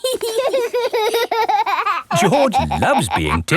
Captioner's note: laughing